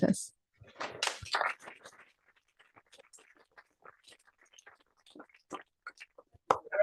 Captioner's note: applause